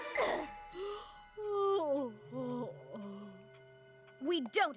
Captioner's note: yawns